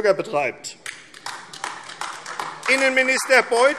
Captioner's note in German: Beifall AfD